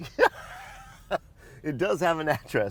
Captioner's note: laughs